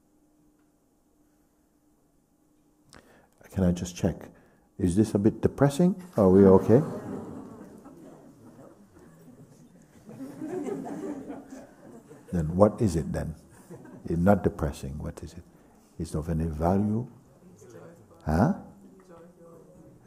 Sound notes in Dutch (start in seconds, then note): 9.8 gelach